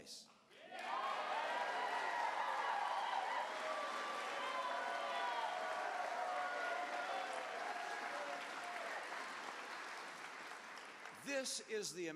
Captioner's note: cheers